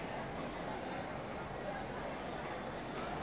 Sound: background chattering

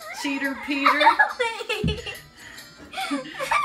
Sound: laughing

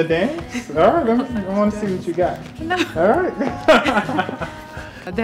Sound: laughter

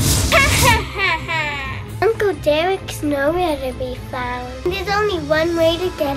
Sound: laughter

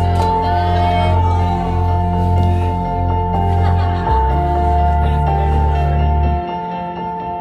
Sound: oohing and laughing

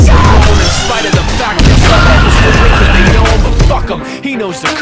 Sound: explosions and screaming

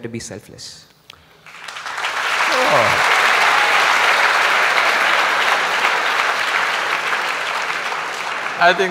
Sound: applause

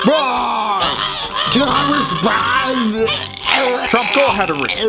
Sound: gagging; retching

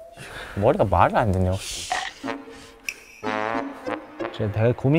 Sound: nibbling

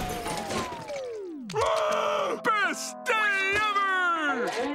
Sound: screaming

